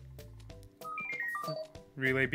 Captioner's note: robot beeps